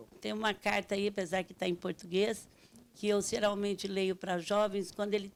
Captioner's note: speaking Portuguese